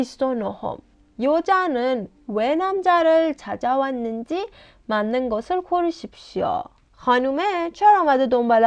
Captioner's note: Korean audio